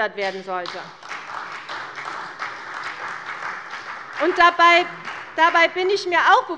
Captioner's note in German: Beifall bei der CDU und dem BÜNDNIS 90/DIE GRÜNEN